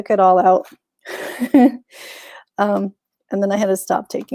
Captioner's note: chuckles